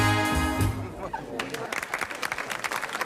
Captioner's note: applause